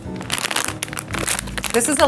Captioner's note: bag rustling